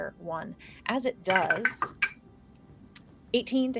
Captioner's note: dice rattling